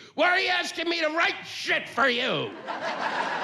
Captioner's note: yelling